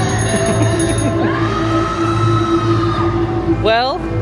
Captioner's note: bike bell ringing; person screams loudly